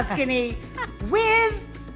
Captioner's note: laughs